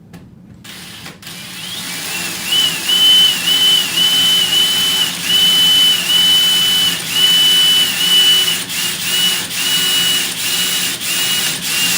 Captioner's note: drill sounds, but cooler